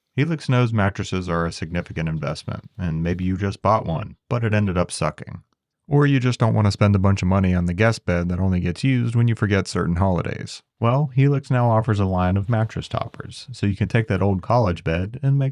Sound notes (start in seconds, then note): none